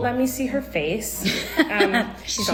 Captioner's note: laughs